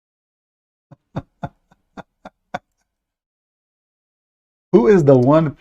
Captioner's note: Ketawa